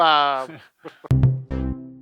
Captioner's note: chuckles; upbeat music